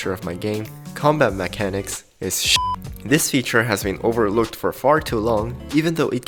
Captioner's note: beep